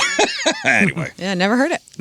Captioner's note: laughing